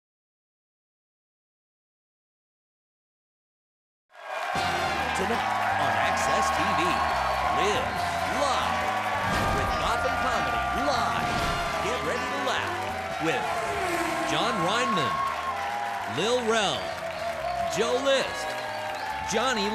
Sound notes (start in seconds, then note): 4.6 upbeat jazz music; 5.2 audience cheering; 13.6 car whirring